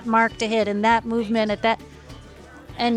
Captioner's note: laughs